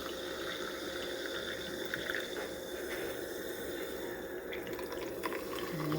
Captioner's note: fizzy pouring and bubbling sounds